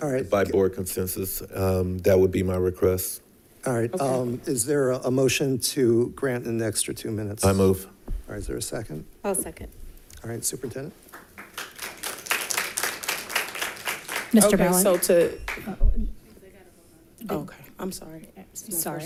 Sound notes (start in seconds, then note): 11.0 audience applauding